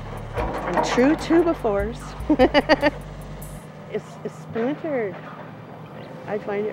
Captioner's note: laughs